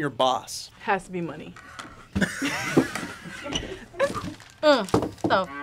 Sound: both laugh

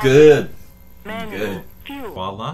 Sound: app Voice

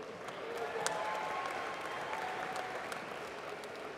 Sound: applause

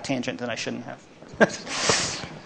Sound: laughs

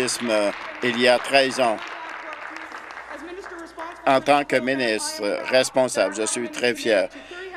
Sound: applause

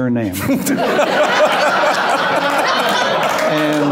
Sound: loud laughter

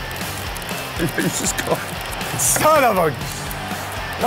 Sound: laughs

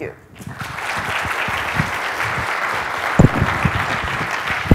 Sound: audience applauds

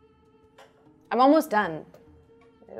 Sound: none

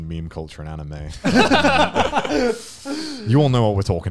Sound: laughing

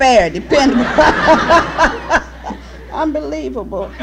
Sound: laughter

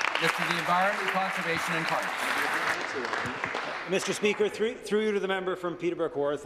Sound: applause

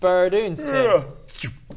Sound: yawn; sigh

